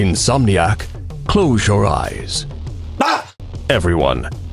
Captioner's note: screams